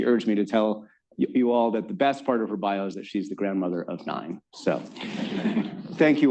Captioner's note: laughter